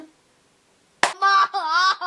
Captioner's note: clap